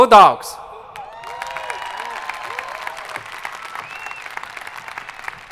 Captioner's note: audience applauding